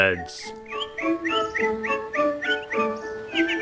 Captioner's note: birds singing